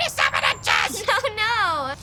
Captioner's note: laughing